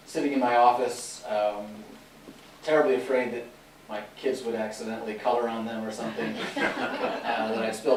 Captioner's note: laughter